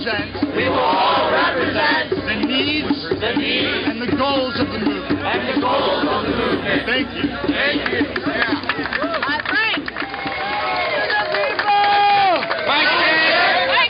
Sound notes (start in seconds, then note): 7.5 cheering and applause; 11.1 voiceover